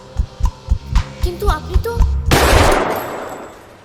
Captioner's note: gun Fired